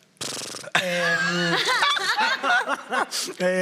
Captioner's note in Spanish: Risas